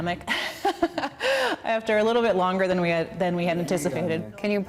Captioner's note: laughing